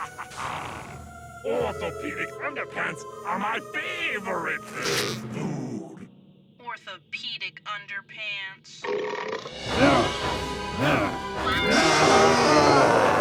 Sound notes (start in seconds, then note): 0.0 alien laughs evilly; 8.8 alien burps and grunts; 11.5 Owen yells